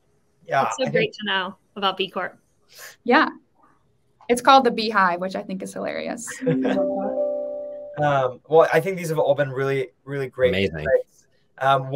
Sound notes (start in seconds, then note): 6.3 chuckles